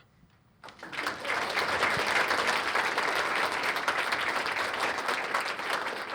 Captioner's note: applause